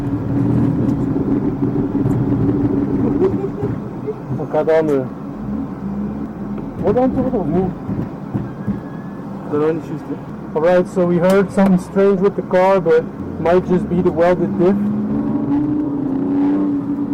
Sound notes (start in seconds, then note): 6.5 clunk clunk